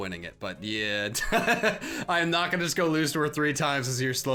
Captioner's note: laughs